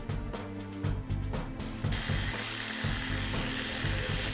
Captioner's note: buzzing